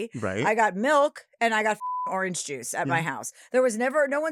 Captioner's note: beep